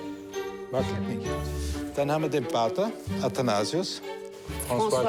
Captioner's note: speaking foreign language